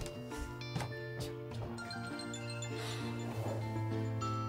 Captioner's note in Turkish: Telefon Çalıyor